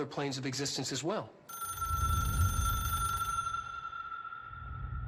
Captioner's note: phone rings